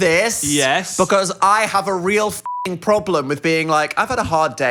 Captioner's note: beep